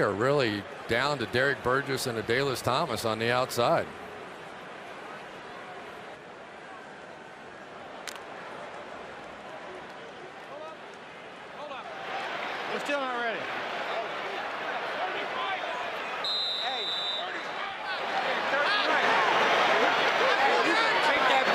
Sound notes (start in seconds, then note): 16.2 whistle